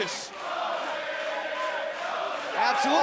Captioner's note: crowd cheering